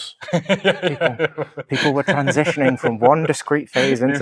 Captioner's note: laughing